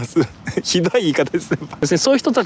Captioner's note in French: rires